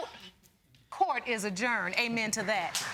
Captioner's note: audience applauding